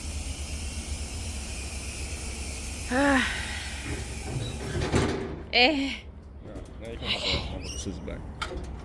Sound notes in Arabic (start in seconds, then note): 2.9 تنهد; 5.5 تنهد ارتياح